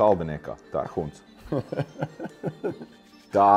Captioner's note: laughing